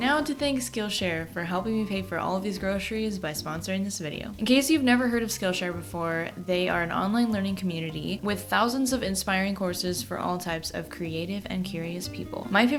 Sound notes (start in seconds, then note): none